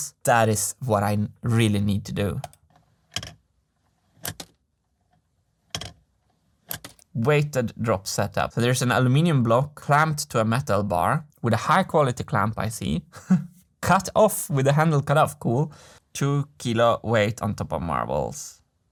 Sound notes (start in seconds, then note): 3.7 prototype clicking, marbles dropping; 13.0 chuckles